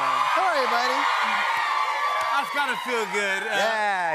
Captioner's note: cheers and applause